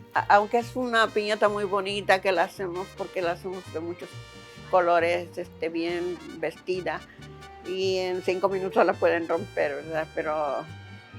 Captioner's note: speaking Spanish